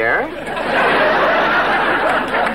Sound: audience laughing

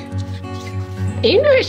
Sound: sniff

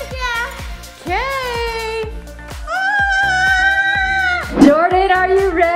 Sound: screams

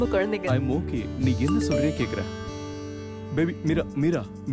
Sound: message tone

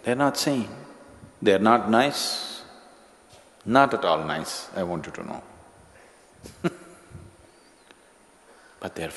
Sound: laughs

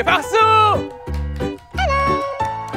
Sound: cheering

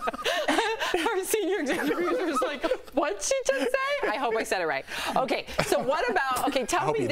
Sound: laughter

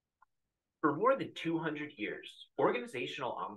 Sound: voiceover

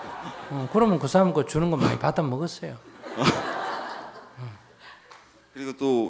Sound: audience laughter; audience laughter

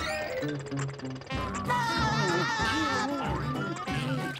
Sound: laughing

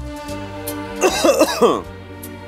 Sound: coughs

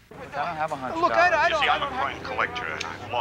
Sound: on phone

